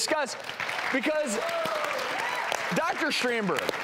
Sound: audience applauds

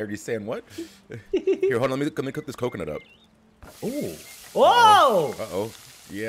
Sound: laugh

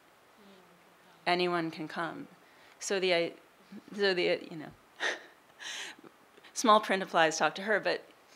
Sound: laughing

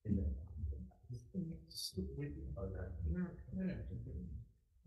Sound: committee members murmur

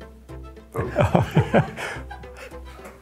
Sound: laughter

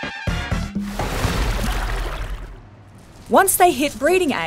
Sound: water splashing

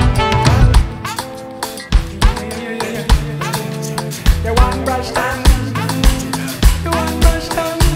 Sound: vocalizing

